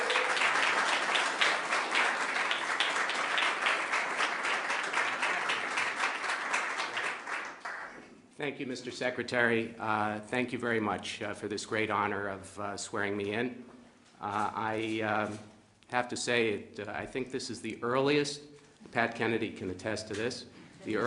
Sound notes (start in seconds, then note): 7.1 applause